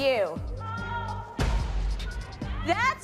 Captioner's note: people gasping